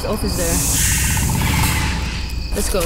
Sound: snake hiss, distant animals

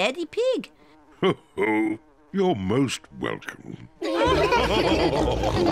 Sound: chuckles; all laughing

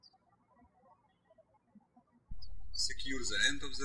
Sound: birds chirping

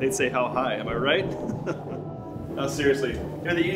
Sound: chuckles

